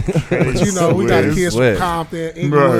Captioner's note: laughing